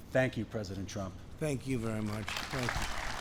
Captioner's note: applause